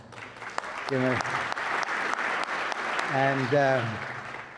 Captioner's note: audience applauds